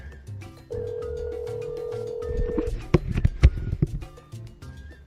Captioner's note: phone ringing